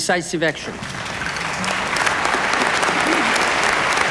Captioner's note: applause